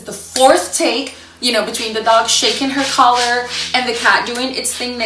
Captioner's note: cat scratching sound